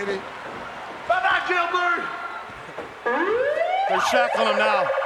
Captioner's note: sirens wailing